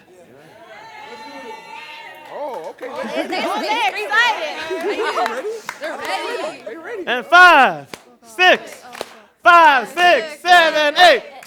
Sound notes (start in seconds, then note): 0.2 audience cheering; 2.5 laughing; 7.2 loudly, clapping